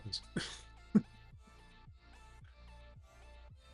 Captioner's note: laughs